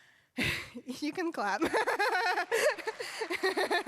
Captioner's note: laughs; applause